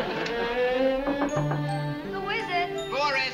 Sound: knocking

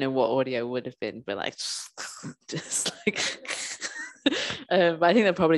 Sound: visceral squelching sounds

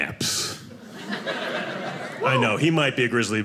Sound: audience laughing

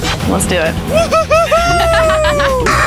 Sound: laughing; cheering

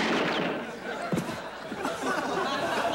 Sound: thud

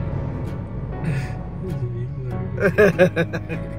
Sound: laughing

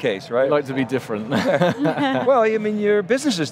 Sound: laughing

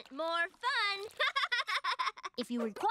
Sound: laughing

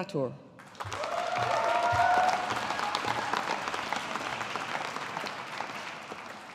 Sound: audience applauding

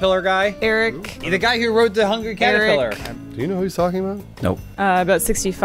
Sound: sassy tone; sassy tone

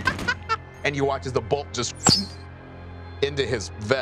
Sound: gun firing; laughing; blows air

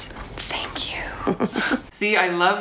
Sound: chuckles

